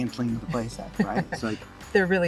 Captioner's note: laughs